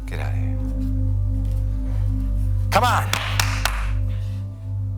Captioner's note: clapping hands